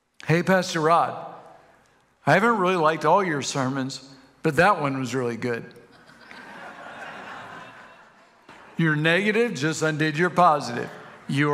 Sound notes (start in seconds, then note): 5.8 congregation laughs